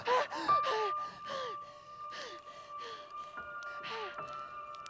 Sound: Brigit panting; tense eerie music

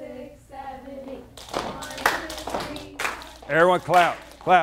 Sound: rhythmic clapping

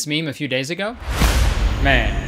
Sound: air whooshing

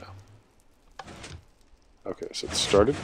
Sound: click; piston sounds

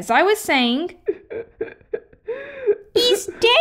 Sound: sobbing

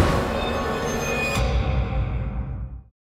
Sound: thunderclap

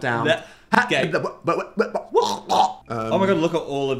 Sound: Dan stumbles and gags

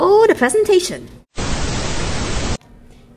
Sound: static

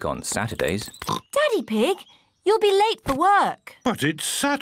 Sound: oinks

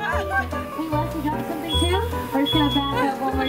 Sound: laughs

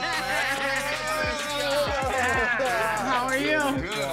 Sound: laughter

